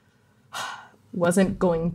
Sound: sighing

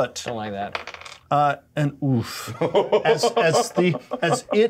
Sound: co-host laughing

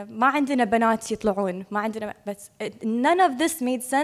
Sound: speaking foreign language

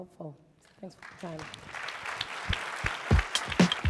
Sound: applause

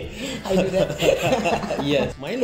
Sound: both laughing

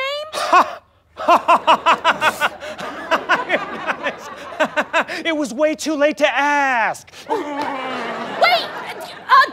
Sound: laughing

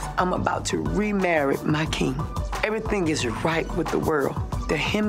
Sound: none

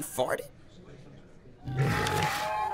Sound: walrus Grunt

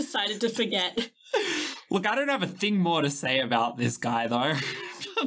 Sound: laughing

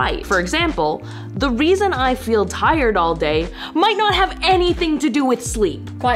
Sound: none

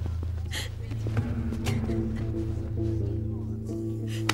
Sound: Ebony sobbing

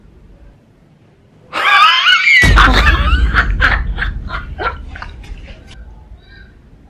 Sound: laughing out Loud

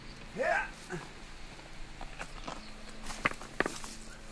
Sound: grunting

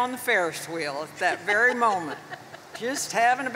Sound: laughs

